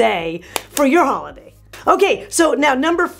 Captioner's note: claps hands